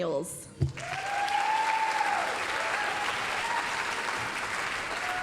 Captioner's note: applause, cheering